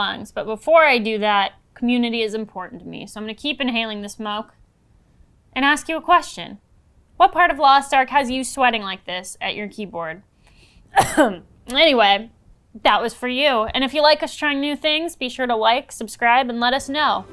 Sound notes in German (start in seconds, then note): 10.9 Husten